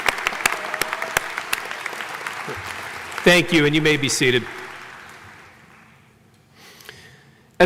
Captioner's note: applause